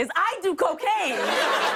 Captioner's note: laugher